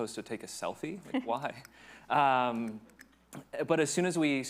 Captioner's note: lightly chuckles